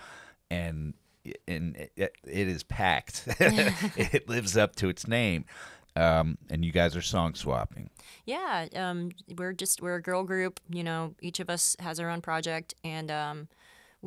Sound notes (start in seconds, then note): 3.2 both laughs